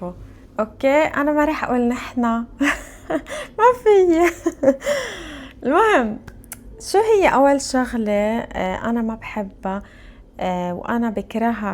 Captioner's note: laughs